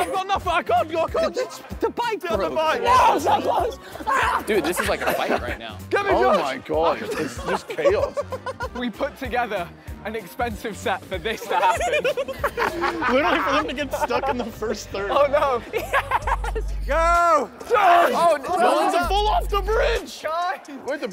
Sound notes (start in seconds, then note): 2.6 contestants yelling; 11.4 contestant giggling; 16.0 contestant laughing